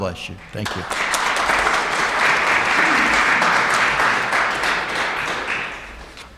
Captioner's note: applauses